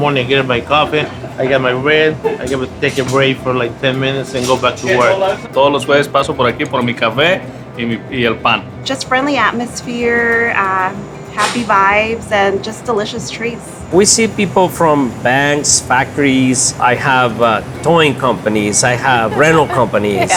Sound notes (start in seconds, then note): 5.5 speaking Spanish